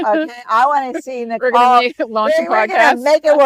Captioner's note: laughs